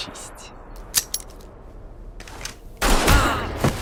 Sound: gun clicks; gunshot

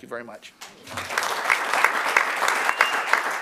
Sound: applause

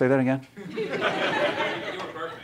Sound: laughter

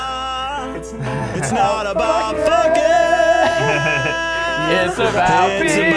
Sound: laughing

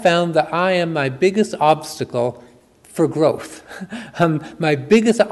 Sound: chuckles

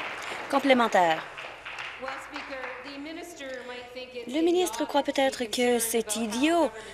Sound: applause

